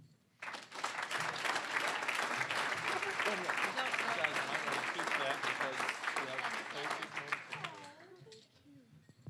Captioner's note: applause